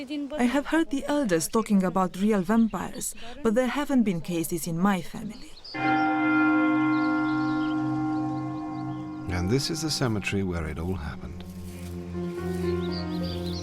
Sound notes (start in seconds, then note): 5.7 church bell tolls; 11.2 pensive piano music plays